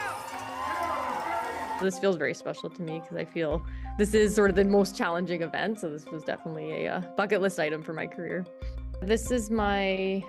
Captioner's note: cheers and Applause